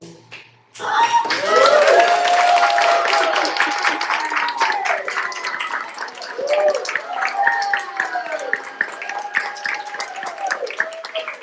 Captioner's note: applause